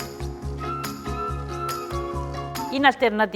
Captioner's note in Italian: Applauso